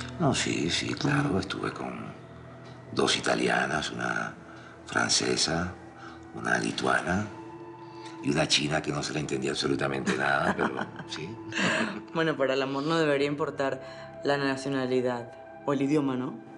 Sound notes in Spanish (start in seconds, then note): 10.0 Risas